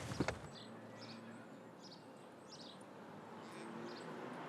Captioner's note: birds chirping